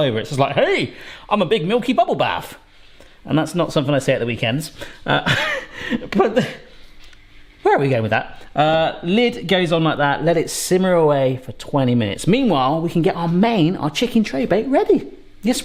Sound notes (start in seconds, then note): 5.0 laughs